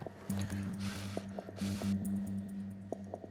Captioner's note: blowing air